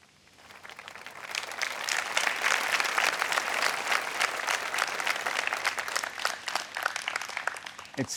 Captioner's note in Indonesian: Tepuk tangan